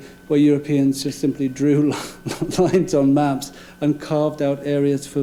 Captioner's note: laughing